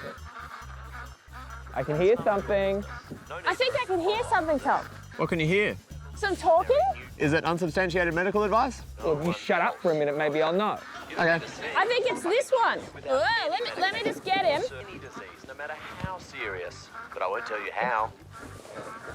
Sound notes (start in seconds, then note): 1.3 ducks quacking, faint human voice; 14.1 tom cashman speaks on recording